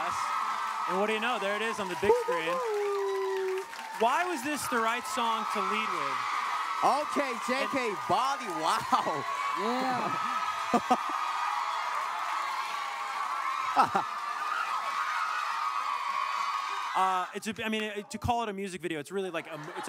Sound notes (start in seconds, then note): 0.0 cheering; 10.7 laughing; 12.0 cheering